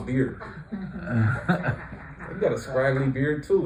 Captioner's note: laughter